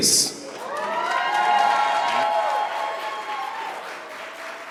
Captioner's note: audience applauds